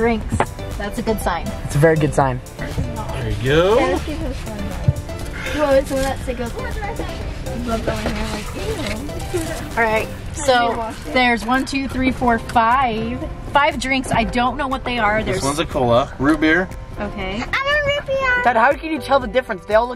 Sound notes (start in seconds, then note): 5.3 children chatter